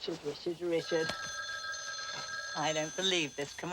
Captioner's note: ring